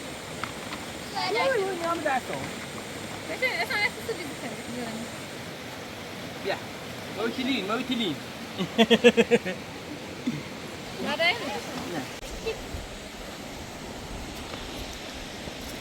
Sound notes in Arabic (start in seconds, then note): 8.5 ضحك